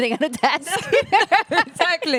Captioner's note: laughing